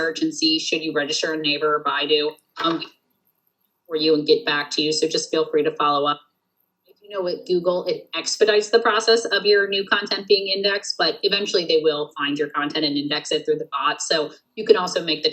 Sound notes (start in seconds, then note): 2.7 audio cuts out